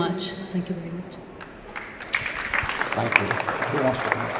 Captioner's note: applause